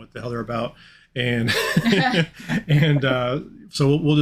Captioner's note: chuckling